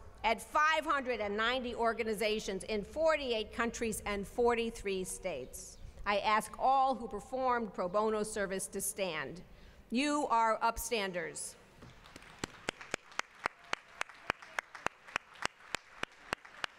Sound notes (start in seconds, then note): 11.8 applause